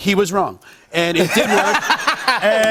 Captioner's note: laughter